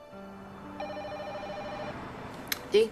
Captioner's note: ringing of telephone